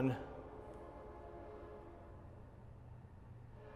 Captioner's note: train passing